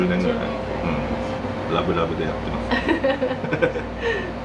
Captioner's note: laughs